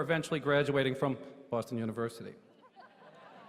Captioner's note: lowers voice; laughter